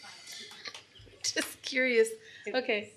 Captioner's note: laughing